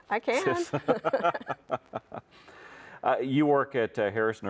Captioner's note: both chuckle